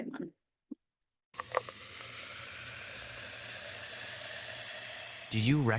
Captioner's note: fizzling